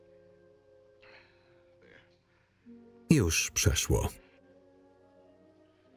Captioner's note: gasp